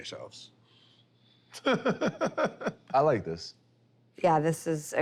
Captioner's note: laughs